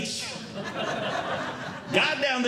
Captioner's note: audience Laughing